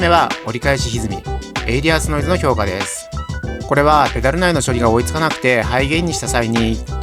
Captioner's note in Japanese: エイリアスノイズ